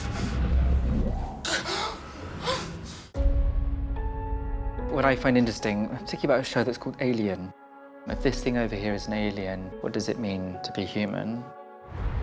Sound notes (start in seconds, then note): 1.5 gasping